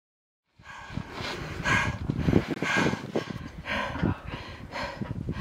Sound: panting

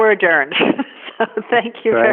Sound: laughs

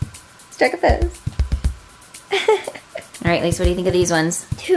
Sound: laughs

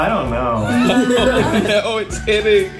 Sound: laughing

